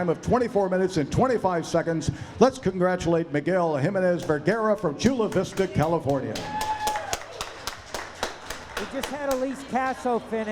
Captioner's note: applause